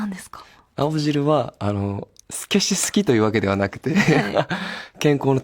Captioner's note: laughs